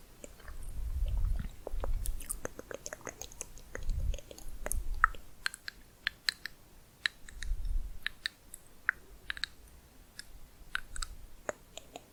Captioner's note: layered tongue clicking, varied pitch